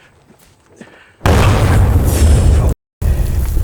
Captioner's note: explosion rumbling